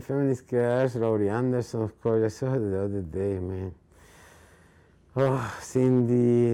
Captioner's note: speaking in foreign language